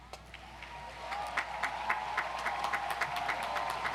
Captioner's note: audience cheers